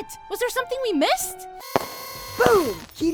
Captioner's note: party noises